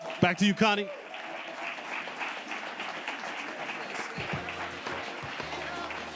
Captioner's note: audience applauding; upbeat music